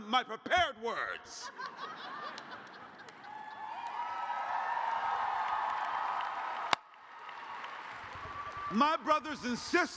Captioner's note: cheers